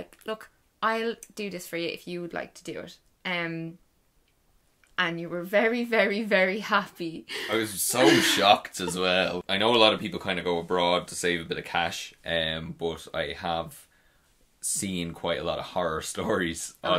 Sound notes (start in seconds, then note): 7.4 laughs